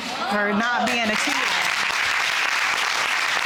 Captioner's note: all clapping